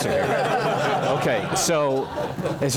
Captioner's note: laugh